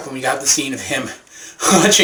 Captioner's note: chuckles